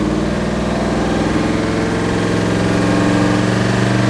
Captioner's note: engine revving